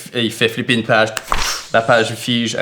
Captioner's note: vocalizes a spell